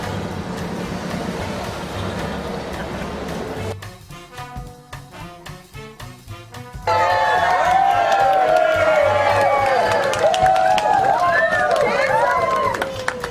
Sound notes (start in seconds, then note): 7.9 cheering